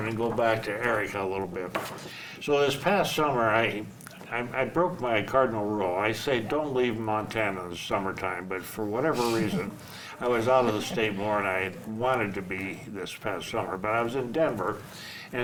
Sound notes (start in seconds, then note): 9.2 laughs